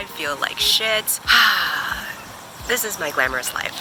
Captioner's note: 𝘴𝘪𝘨𝘩